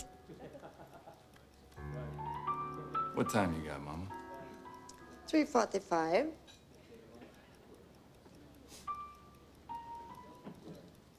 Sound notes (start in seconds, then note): 6.8 ticking